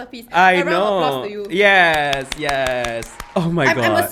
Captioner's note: claps